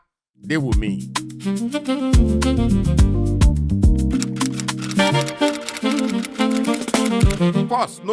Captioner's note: instrumental music; keyboard clacking